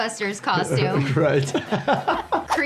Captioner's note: laughs